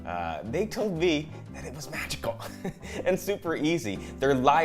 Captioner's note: laughs